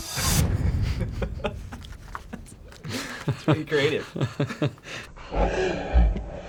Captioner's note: laughing; laughing in slow motion